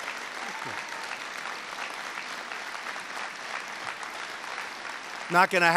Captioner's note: applause